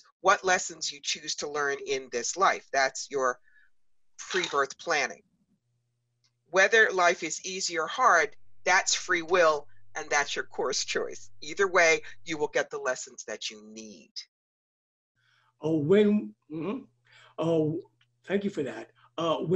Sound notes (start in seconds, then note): 16.7 stammers